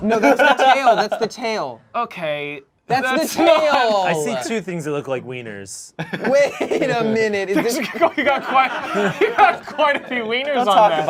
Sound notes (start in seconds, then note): 3.0 group laughs; 5.9 group laughs